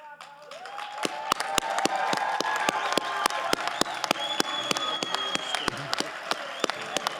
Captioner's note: audience applauding